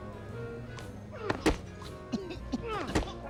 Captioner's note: kicking